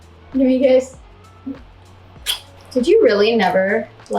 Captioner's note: adorable noises